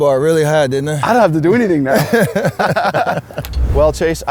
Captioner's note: laughs